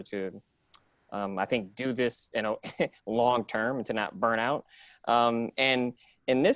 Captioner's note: giggles